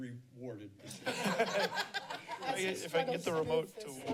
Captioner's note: laughter